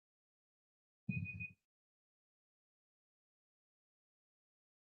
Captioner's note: alarm beeping